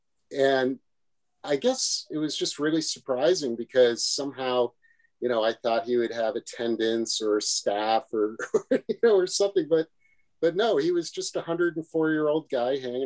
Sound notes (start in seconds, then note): 8.3 laughs